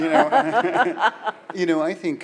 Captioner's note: laughs